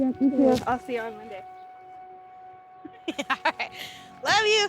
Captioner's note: both laughing